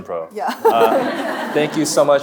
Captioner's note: chuckling